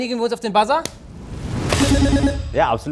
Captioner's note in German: Buzzer